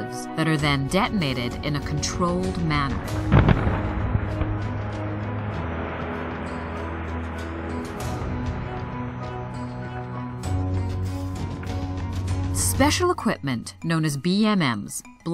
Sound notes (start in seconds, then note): 3.0 explosion; 3.2 gravel flying